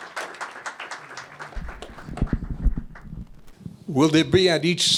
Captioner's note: applause